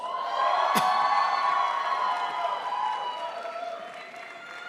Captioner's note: crowd applauds